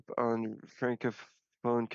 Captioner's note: speaking French